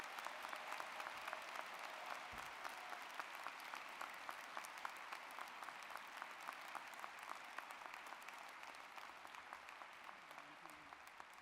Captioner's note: applause